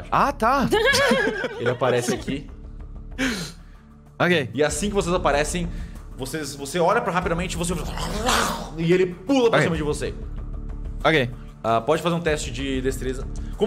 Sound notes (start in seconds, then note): 0.6 laughs; 7.8 growls